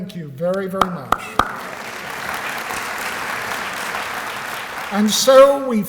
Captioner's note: applause